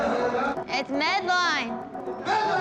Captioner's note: laughs